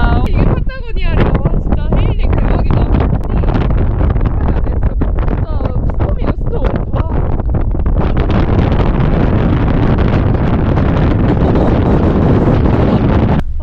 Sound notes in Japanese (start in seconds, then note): 7.0 普段よりずっと激しい風音…